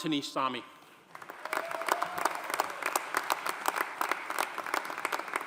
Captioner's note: audience applauding